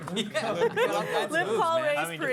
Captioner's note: laughter